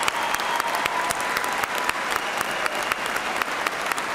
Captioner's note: cheers and applause